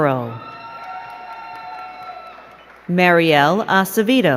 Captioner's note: crowd cheering and clapping